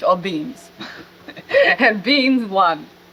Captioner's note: laughs